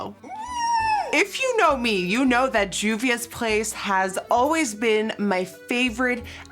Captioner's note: squeels